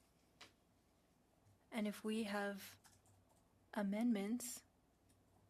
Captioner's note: speaking French